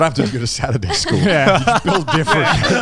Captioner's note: laughing